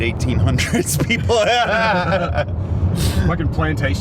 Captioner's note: laughing